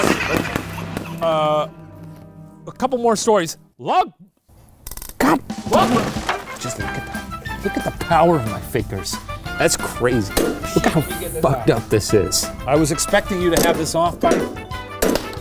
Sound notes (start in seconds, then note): 5.1 upbeat music; 10.2 bangs